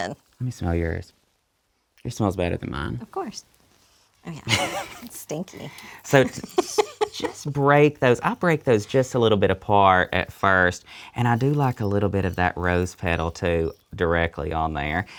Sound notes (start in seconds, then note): 6.0 laughs